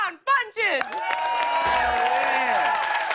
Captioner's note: cheers and applause